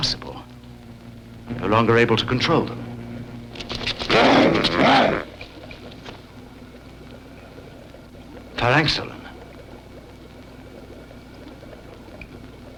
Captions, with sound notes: - Impossible. I'm no longer able to control them. (grunting) Farancksalan.